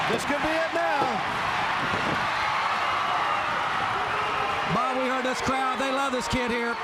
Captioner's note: crowd cheering